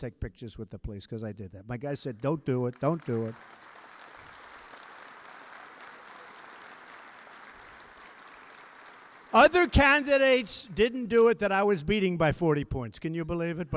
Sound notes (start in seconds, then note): 2.1 applause